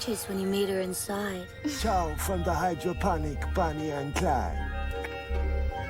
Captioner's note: clicks tongue